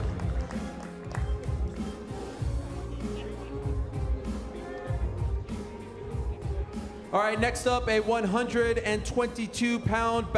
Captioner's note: applause